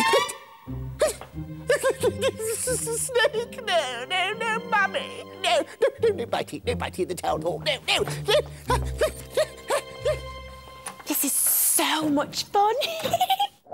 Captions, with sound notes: It's a snake! No no no, Mummy! No! No! No biting, no biting in the Town Hall, no! [Panicked Mayor noises!] This is so much fun! Hehehe!